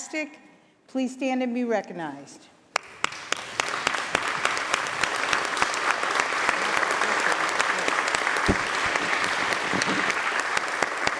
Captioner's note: applause